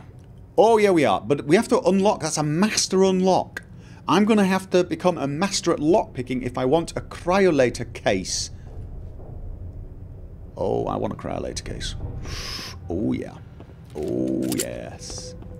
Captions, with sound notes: Oh yeah we are! But we have to unlock that's a master unlock! I'm going to have to become a master at lockpicking if I want a Cryolator Case. Oh.. I want a Cryolator case. *Heavy breathing* Oh yeah! OOOH yes.